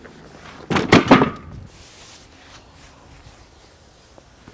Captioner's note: metal clanks